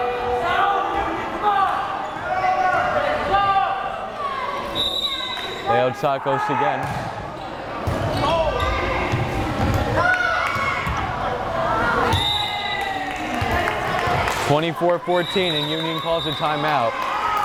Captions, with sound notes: (whistle blares) Leoutsakos again. (whistle blares) (crowd cheering) 24-14 and Union calls a timeout,